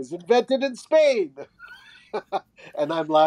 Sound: chuckling

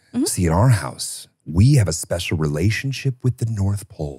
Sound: laughs

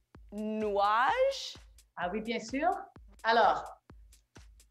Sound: speaking French

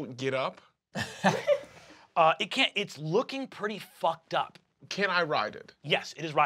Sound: chuckles

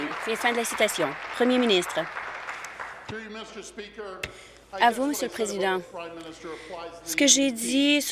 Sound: applause

